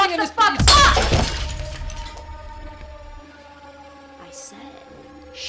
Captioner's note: glass clatters; tense music